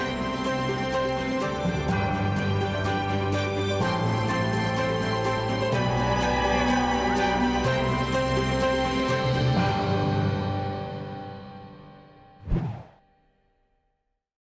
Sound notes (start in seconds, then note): 9.6 uplifting music fades; 12.4 graphic whooshes